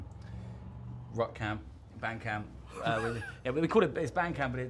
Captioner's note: laughs